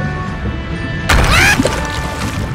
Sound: Dryconiac scream

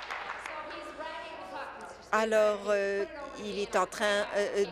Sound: applause

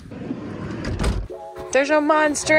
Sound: door clicks

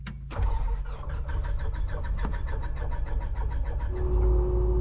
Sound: engines starts; engine hums

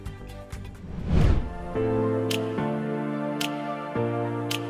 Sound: swooshing sound, followed by music

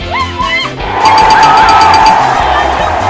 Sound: cheering; ding, ding, ding, ding!

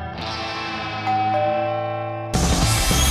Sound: doorbell

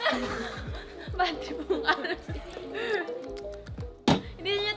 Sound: laughs

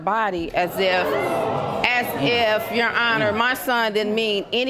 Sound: audience exclaims

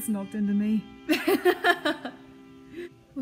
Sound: laughs

